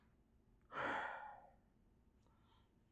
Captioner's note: sigh